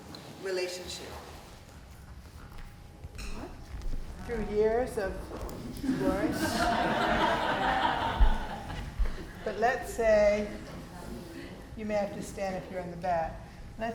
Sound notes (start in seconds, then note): 5.8 people laughing